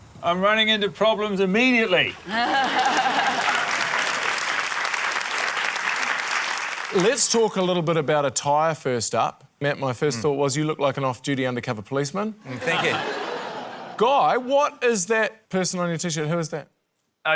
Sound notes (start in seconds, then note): 2.2 laughter, applause; 12.4 laughter